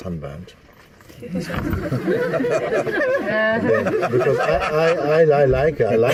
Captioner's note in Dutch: gelach